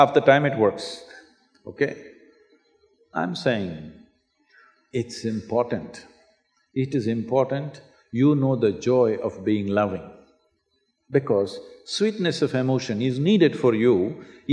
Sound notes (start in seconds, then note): none